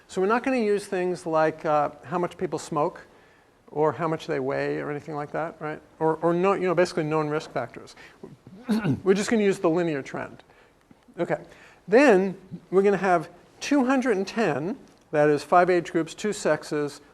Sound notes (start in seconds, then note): 8.5 cough